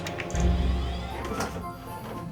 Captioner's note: sound of computer starting up